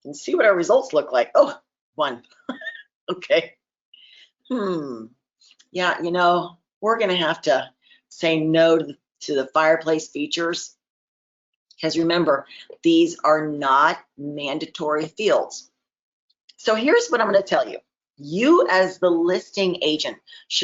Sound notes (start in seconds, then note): 2.4 chuckles